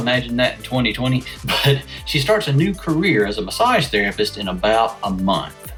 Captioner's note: laughs